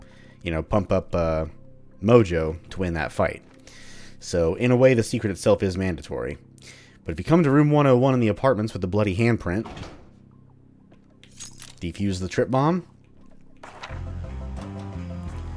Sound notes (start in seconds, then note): 9.5 door opens; 11.3 objective Complete riff plays